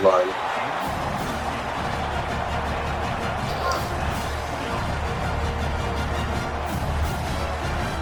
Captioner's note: crowd Noises